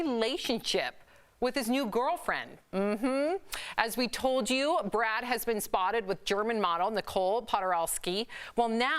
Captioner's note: laughter